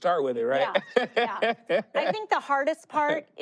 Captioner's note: laughs